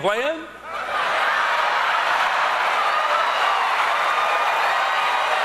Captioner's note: cheers and applause